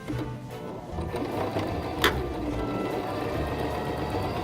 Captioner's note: whirring